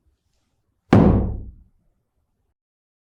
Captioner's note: thud